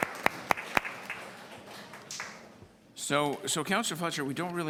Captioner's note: applause